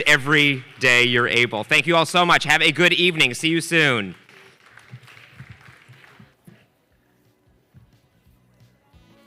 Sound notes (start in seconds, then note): 3.7 audience applauding